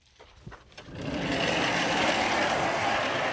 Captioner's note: sliding door rustling